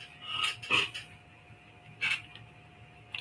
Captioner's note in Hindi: गला साफ़ करने की आवाज़